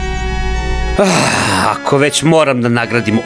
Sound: sigh

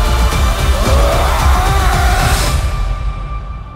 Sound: loud Screams

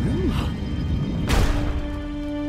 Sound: gasps

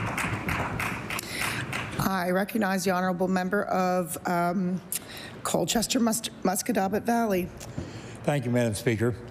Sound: applause

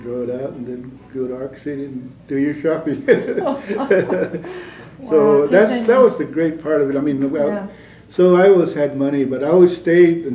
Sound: laughter

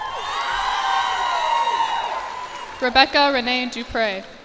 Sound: cheers and applause

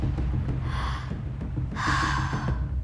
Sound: breathing heavily

